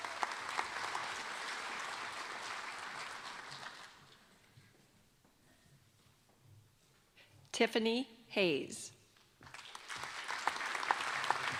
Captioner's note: applause